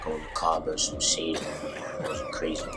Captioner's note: men cough